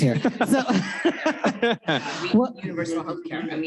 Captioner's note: laughs